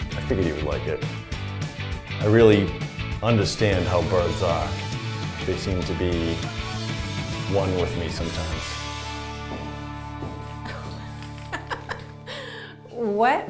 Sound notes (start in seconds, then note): 8.2 footsteps; 9.7 laughing